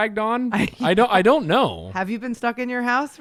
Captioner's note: laughs